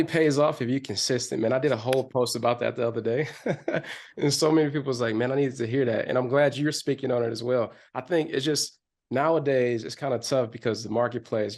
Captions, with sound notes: - It only pays off, if you're consistent. Man, I did a whole post about that the other day (chuckles) and, so many people's like, "Man, I needed to hear that." And, I'm glad you're speaking on it, as well. I think, it's just, nowadays, it's kind of tough, because, the marketplace, you know,